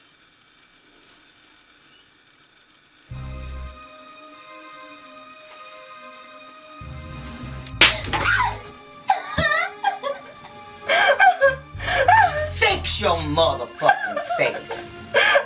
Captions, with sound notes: (slap) (Mary screams) (Mary cries) Fix your mother fucking face!